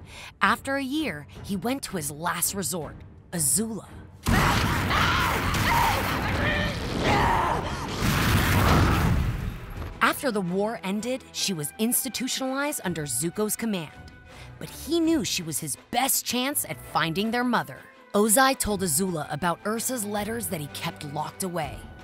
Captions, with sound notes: After a year, he went to his last resort, Azula. [screaming] After the war ended, she was institutionalized under Zuko’s command. But he knew she was his best chance at finding their mother. Ozai told Azula about Ursa’s letters that he kept locked away.